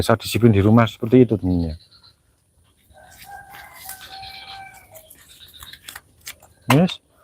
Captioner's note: rooster Crowing Sound